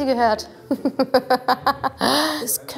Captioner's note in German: Lachen